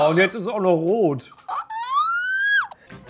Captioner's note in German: Genervtes Quietschen